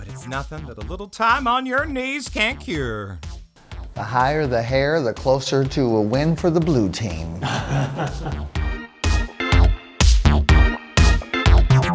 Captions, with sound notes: But it's nothing that a little time on your knees can't cure. - The higher the hair, the closer to a win for the blue team. (laughing) (techno music)